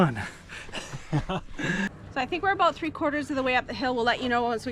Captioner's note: laughs